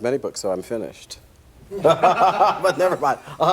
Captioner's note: laughter